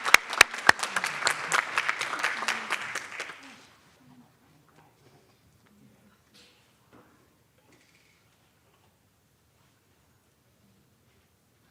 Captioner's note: applause